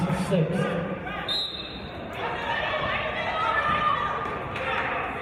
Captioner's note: referee's whistle